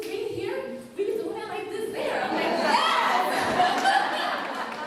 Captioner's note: laughter